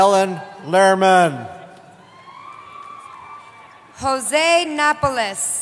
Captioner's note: cheering